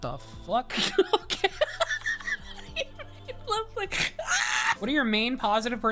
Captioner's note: laughing